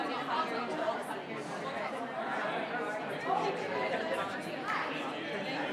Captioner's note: group quietly conversing